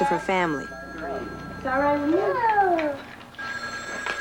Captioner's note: telephone rings